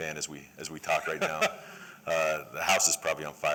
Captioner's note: laughter